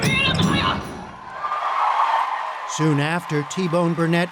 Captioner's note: song ends, cheering and applause